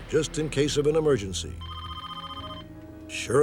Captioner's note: phone rings